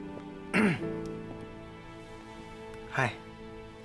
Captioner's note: Ryan clears throat